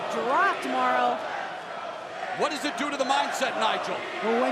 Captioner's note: crowd cheering